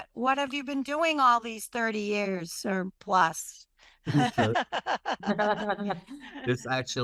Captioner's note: laughs